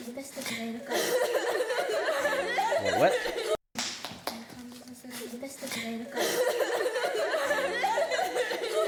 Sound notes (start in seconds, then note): 0.1 non-english speech; 4.3 non-english speech